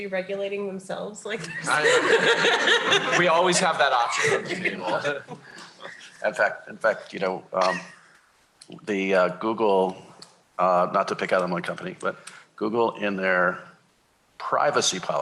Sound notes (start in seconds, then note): 1.4 laughter